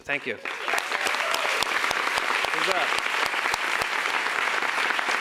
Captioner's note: audience applauds